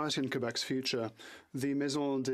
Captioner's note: speaking French